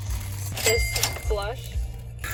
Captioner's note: occasional cash sounds